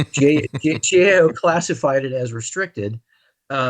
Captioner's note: laughs